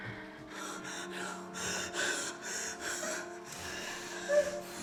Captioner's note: Miss. Fang crying